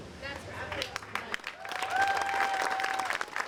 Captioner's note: applause